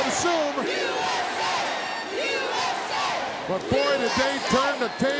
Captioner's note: crowd chants "USA"